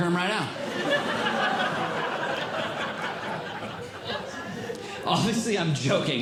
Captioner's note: audience Laughing